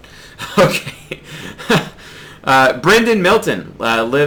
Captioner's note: laughs